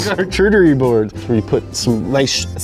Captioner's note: laughing